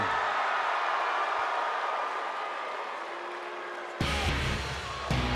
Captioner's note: applause